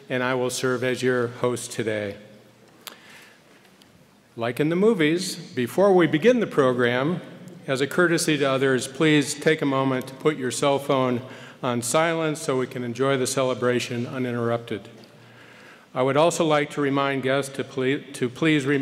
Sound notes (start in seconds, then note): none